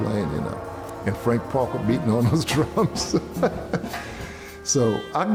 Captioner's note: laughs